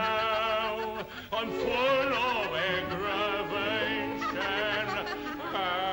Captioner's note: laughs